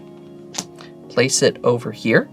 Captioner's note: card slaps